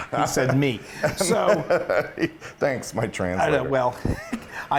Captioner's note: laugh